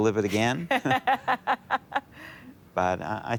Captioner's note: laughter